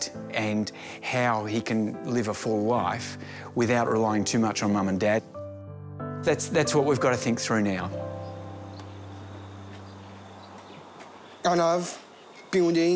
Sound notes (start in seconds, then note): 8.1 birds twitter, cicadas chirp